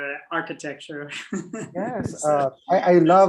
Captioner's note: laughs